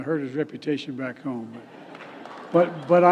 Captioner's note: laughter